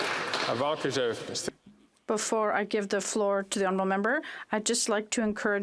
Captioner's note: some Applause